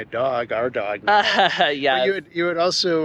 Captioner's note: giggles